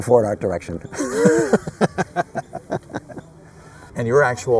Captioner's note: laughter